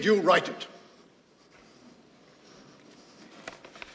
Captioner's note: trembling